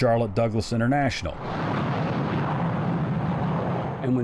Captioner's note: plane roars